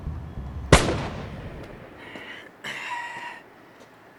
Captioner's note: gunshot pops